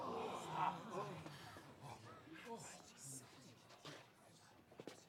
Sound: crowd gasps; people whispering

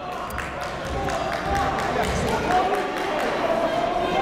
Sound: crowd talking

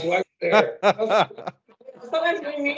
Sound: laughs

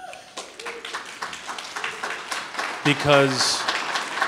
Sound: audience clapping

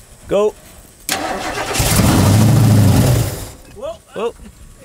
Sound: engine straining

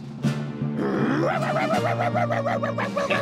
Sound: barking

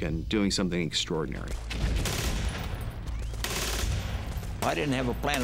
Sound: gunshots

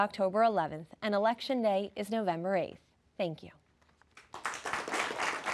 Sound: audience applauds

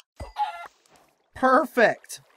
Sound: clucking

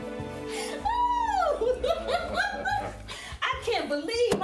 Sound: laughing

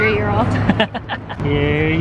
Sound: laughs

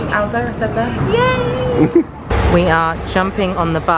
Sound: laughing

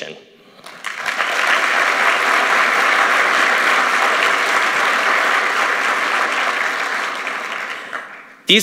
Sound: applause

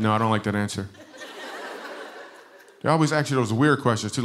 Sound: laughter

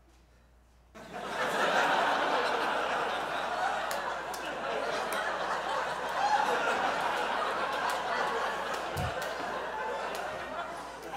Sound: audience laughs

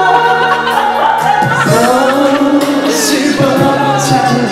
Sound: laughing

